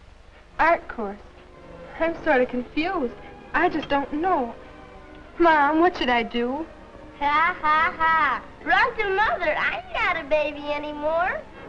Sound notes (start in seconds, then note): 7.2 mockingly